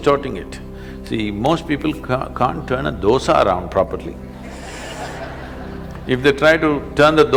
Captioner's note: laughter